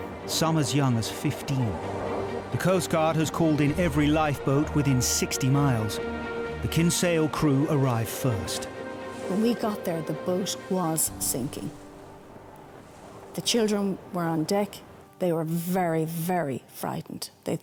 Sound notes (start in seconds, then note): 11.8 water whooshing